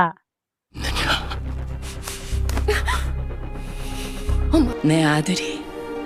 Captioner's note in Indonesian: tertawa